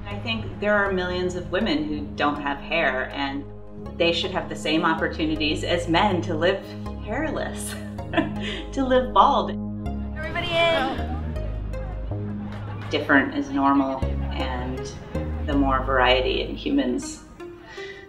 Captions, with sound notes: I think there are millions of women who don't have hair and they should have the same opportunities as men to live hairless, (laughs) to live bald. - Everybody in. - Different is normal, and the more variety in humans, the better.